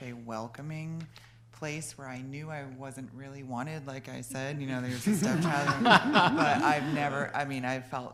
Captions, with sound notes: where I knew I wasn't really wanted like I said. (laughter) I mean I've felt so welcome